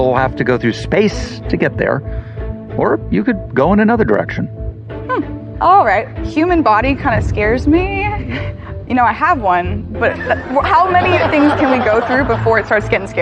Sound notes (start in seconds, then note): 10.0 laughter